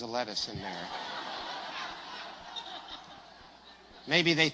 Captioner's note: risate